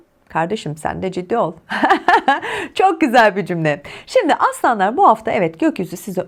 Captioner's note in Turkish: kahkaha